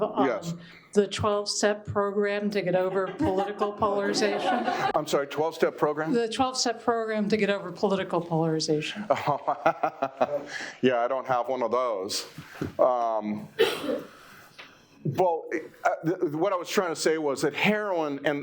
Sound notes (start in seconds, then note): 9.1 laughs